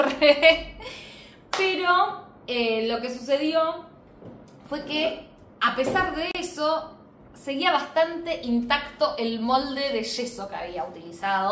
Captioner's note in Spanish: risas